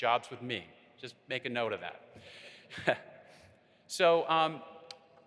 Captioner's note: chuckling